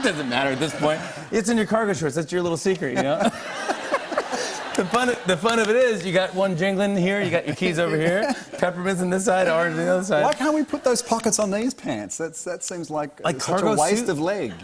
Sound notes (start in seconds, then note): 2.9 laughter